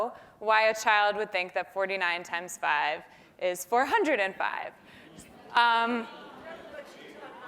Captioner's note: laugh